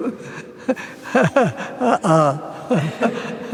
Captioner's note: chuckling